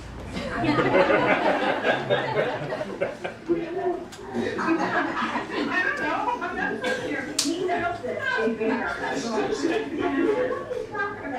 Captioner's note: laughter